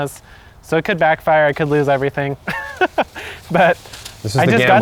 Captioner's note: laughs